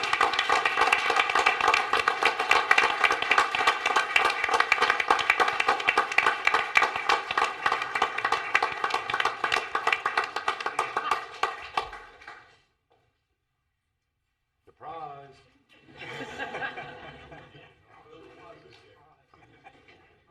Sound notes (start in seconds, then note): 2.6 applause